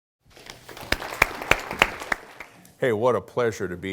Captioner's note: applause